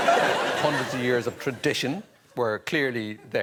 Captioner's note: laughter